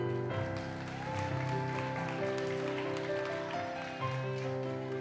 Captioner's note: audience cheers and applauds